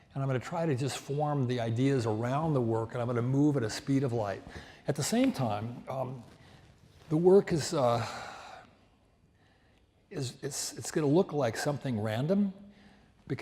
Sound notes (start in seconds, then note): none